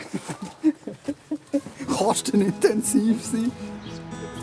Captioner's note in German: lachend